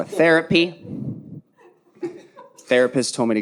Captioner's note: audience laughing